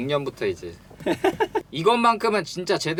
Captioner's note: laughter